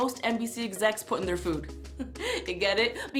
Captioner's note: chuckles